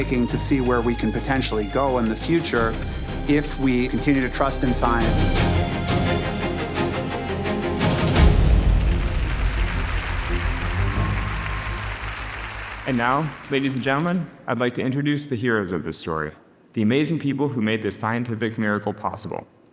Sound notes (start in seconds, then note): 5.0 dramatic music; 8.3 audience applauding